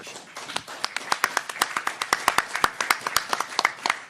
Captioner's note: everyone applauding